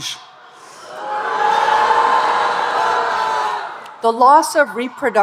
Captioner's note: audience booing